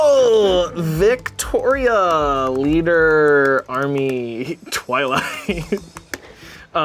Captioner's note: laughs